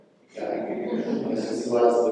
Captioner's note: laughter